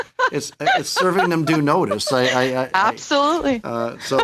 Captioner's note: laughter